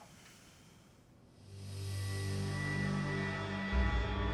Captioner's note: sighs